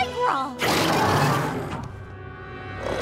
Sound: roaring

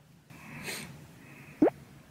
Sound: Frogger sniffles sadly

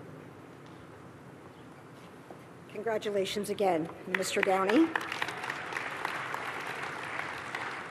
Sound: applause

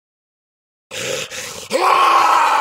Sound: angry forest man screams

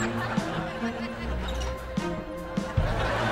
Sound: chattering

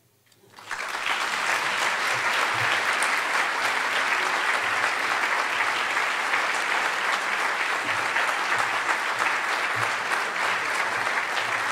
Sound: applause

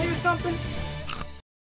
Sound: crunch!

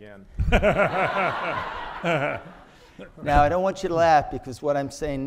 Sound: audience laughing

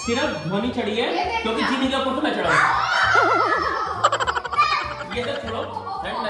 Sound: laughter

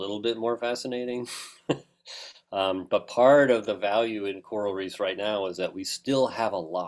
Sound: laugh

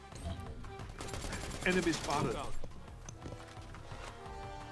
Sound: guns firing

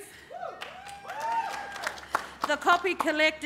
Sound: cheering

